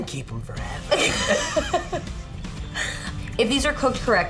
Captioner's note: laughter